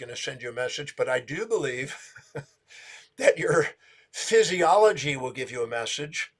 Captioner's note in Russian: смеется